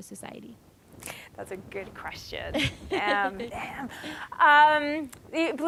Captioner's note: laughing